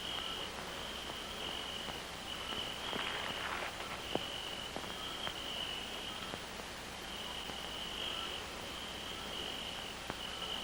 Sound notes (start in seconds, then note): 3.9 chirping